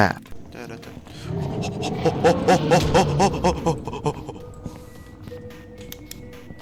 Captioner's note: monkey noises